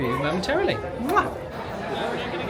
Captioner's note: lips smacking; crowd chattering